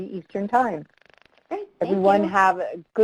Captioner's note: voiceover